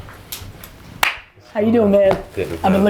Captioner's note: hand slap